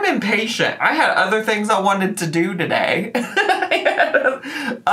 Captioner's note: laughs